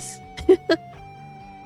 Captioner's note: laughs